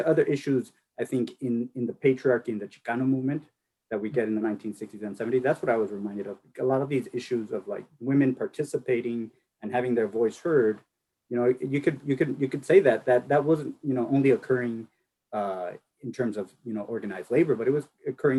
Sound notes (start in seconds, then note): none